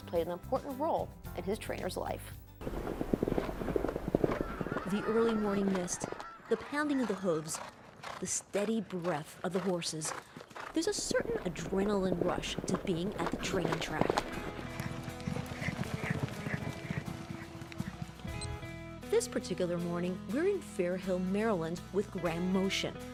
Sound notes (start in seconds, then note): 2.8 galloping; 14.8 lively music; 16.1 galloping